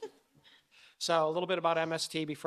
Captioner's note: laughing